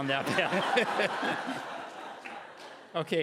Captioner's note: laughing